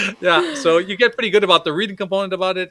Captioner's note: both laughing